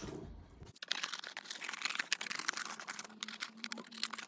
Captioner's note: scissors cutting